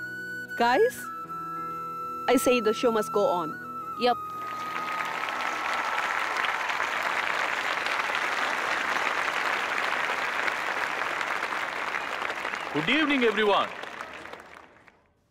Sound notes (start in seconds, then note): 4.7 applause